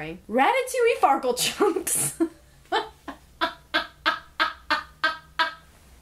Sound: laughs

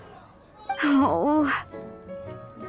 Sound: sigh

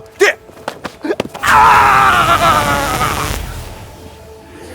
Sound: screaming

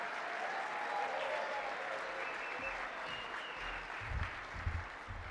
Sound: applause and cheers

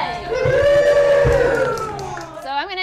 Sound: crowd

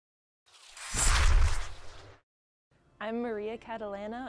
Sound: sound effect

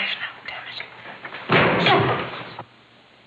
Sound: banging noise

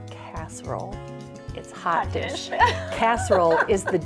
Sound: laughs

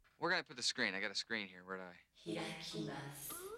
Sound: woman's voice in japanese

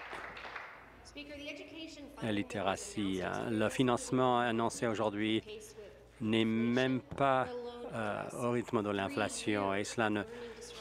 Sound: applause

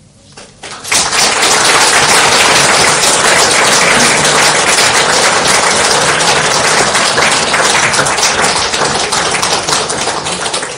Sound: clapping

